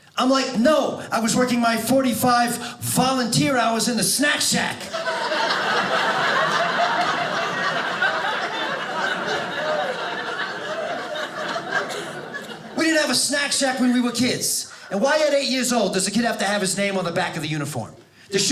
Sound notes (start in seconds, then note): 4.8 audience laughing